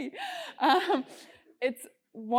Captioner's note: laugh